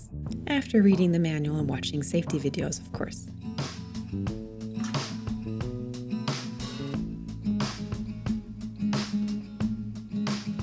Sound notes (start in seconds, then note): 4.1 music rises; 4.8 cup rattles against metal